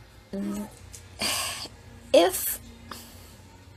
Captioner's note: sighs